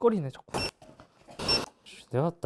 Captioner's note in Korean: 삑 : 빨리 해!